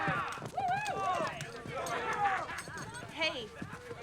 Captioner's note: fans shouting